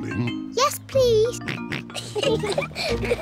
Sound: snorts; oinks; both giggle

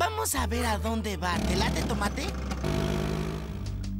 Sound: engine Revs

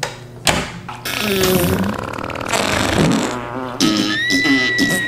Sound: exaggerated flatulence; screaming

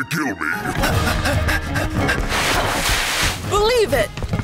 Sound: exciting music; Naruto panting

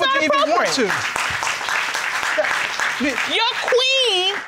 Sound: audience applauding

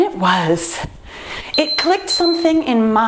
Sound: timer beeps

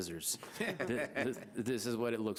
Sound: board member laughs

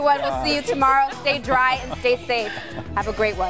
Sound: laughter

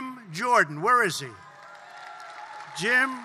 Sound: applause

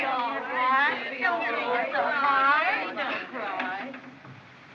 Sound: chattering

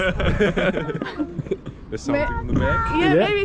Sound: group laughing

